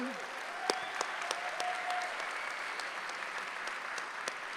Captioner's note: applause